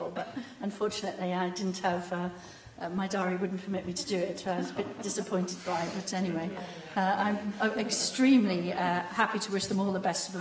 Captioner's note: laughter